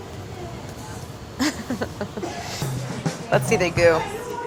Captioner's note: laughing